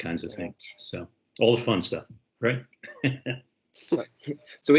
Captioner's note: chuckles